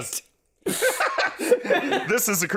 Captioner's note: burst of laughter